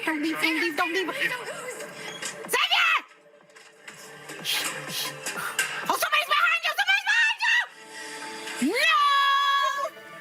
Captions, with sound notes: Don't leave, don't leave, don't leave, don't leave. Xavier! [exhaling sharply] Oh, somebody's behind you! Somebody's behind you! No!